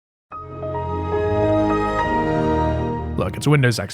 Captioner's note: Windows XP Startup Sound